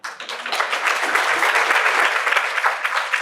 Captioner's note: applause